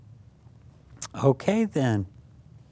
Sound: clicks mouth

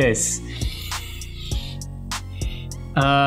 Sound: sniffs

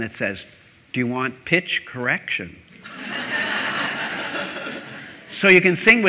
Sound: laughter

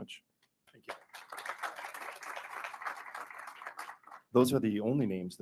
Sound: attendees applauding

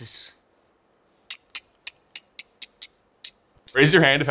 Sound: Harry making clicking noises

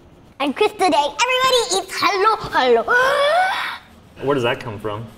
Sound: gasps

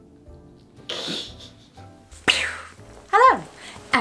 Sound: laughs

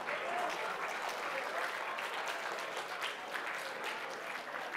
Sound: applause

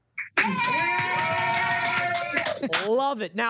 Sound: applause and cheering

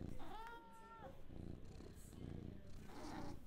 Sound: cat meows

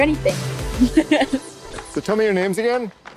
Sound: chuckles

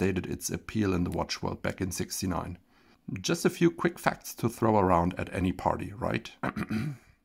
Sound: ahem

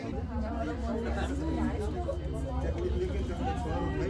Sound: crowd talking

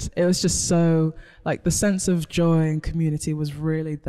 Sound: none

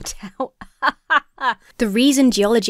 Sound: laughs uncomfortably

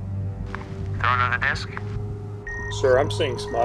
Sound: radio

